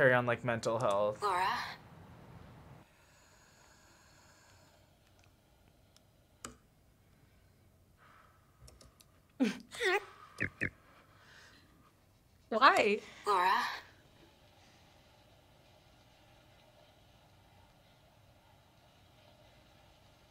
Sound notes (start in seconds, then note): 10.4 laughs